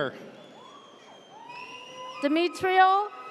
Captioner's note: audience cheers